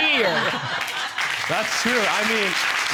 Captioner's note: audience laugh